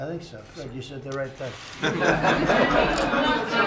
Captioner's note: laughter